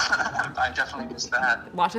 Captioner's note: laughing